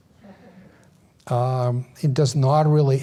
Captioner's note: audience laughs